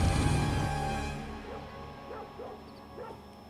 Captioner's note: dog barks in distance